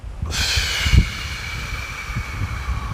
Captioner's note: deep exhale